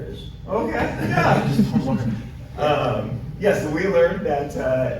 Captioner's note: laughing